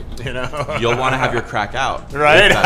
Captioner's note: laughs